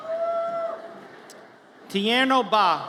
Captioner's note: audience cheers